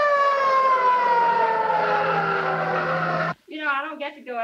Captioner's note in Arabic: صافرة الإنذار تدوي; اصوات صرير الاطارات